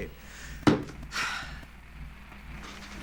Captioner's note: exhales deeply; vile thuds